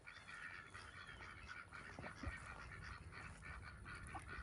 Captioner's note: ducks quacking